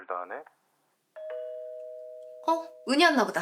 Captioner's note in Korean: 초인종 소리